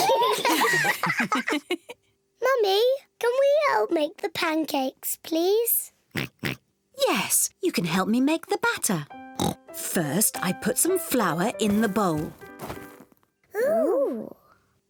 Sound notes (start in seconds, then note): 0.0 all laugh; 6.1 oinks; 9.4 oinks